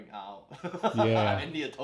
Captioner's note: both laughing